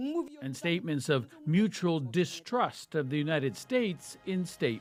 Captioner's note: speaking alternate language